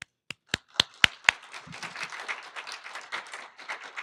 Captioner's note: applauding